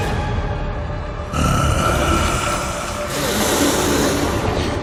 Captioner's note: demonic groan